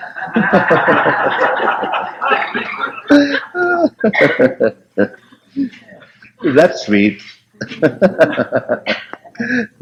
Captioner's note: laughter